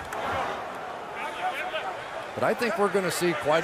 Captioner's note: chatter